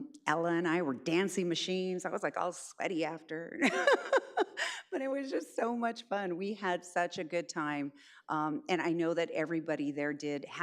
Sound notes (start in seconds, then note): 3.6 laughs